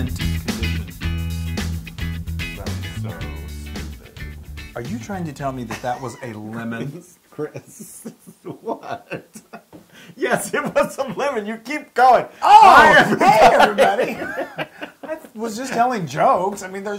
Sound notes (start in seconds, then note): 5.5 laugh